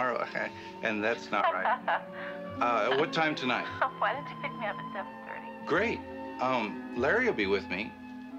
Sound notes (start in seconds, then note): 2.9 phone rings